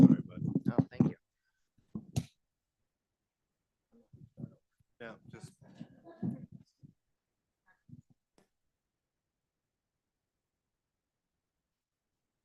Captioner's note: no audio